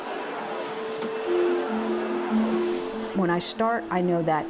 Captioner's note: vacuuming; students leaving class